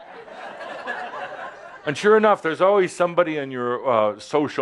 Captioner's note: laughter